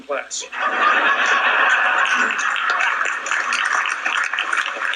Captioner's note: audience laughing